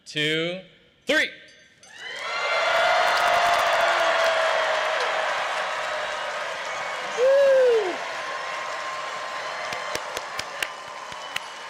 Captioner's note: cheering; applause; cheering